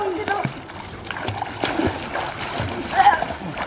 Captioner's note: splashing